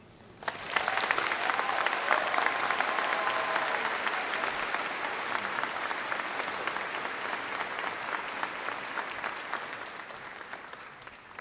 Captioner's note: applause